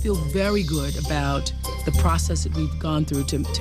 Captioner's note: none